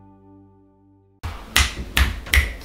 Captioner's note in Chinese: 拍拍手